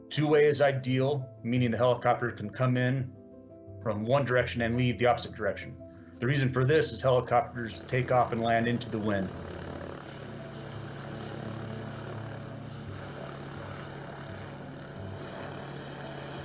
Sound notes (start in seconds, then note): 10.1 helicopter whirls